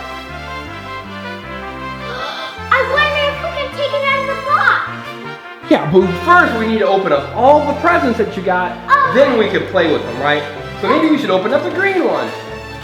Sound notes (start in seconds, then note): 0.2 mellow music; 2.0 assistant gasps; 12.6 mellow music